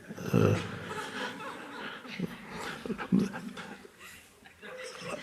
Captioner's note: audience laughs